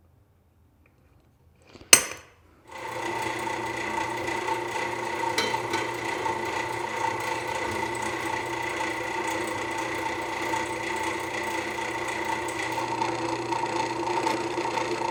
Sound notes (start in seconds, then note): 2.9 metal grinding